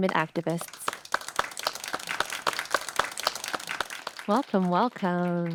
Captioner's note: audience applauding